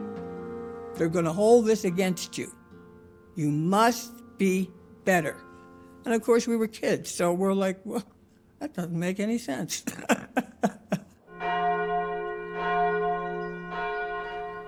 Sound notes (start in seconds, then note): 9.7 laughs; 11.3 bell ringing